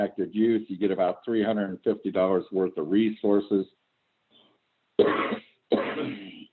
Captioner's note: clears throat